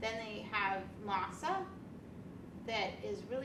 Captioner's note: none